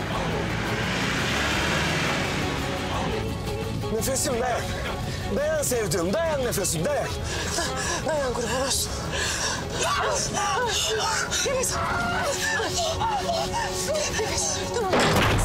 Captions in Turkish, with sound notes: Nefes'im dayan! Dayan sevdiğim! Dayan Nefes'im dayan! Dayan, kurban olsun! (Bağırıyor.) Nefes, tamam.